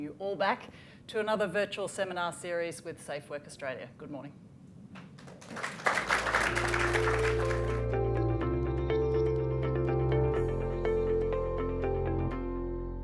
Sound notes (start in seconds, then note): 5.1 applause